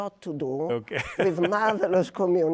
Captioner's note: laughs